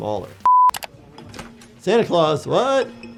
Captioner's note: digital beep